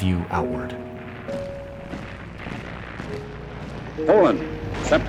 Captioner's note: footsteps marching